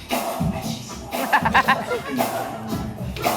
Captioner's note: laughing